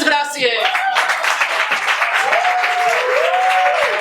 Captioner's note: applause